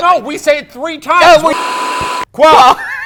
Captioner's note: static buzzes; laughs